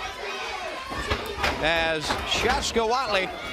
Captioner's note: crowd chatter